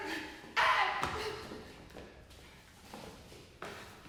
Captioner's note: shrieking